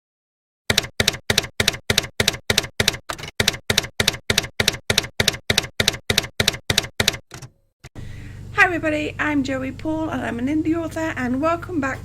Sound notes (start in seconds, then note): 0.7 typewriter keys clacking